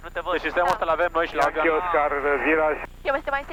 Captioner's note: radio chatter